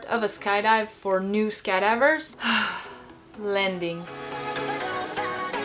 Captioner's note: sighs; upbeat music